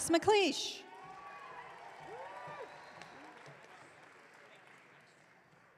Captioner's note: audience cheering